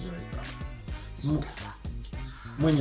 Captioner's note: whisper secretly